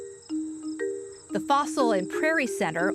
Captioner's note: birds chirping